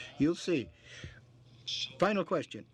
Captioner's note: speaking French